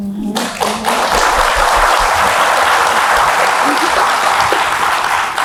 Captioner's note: applauds